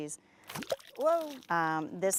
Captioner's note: water splashing